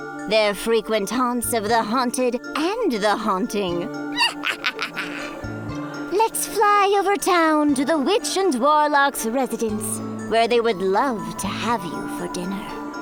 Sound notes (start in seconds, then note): 4.2 cackles